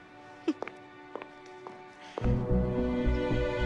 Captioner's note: Jordan chuckles; tense suspenseful music